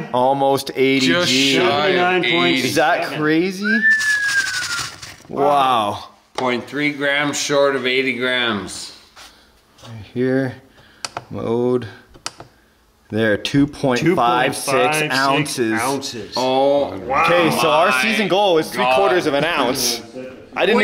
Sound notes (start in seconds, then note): 3.6 whistles in shock; 3.9 gold shuffling